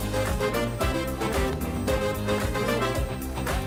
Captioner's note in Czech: bouření ohňostrojů; veselá hudba